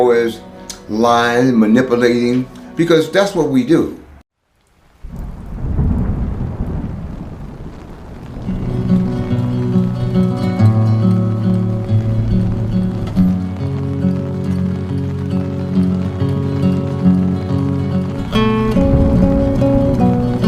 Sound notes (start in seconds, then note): 5.2 rain pattering; 5.2 thunder rolling; 8.9 mellow music